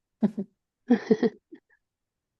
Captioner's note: both chuckle